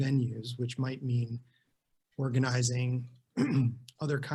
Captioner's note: clears throat